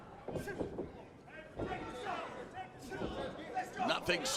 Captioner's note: crowd chatter